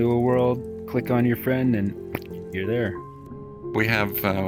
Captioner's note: pop